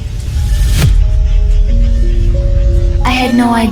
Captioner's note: DA-WARM, womanly, warm, soft digital voice